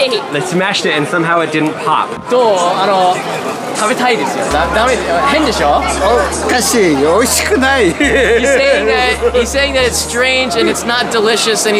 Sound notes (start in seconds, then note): 2.5 speaking Japanese